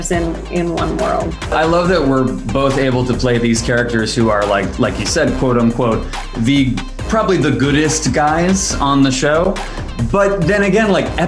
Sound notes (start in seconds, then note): 2.6 boom